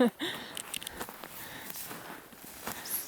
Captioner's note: yasmin chuckling